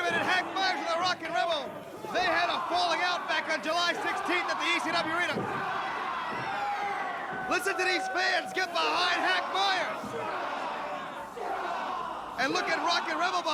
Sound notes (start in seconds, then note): 0.0 crowd chatter; 4.2 crowd chatter; 10.2 crowd cheering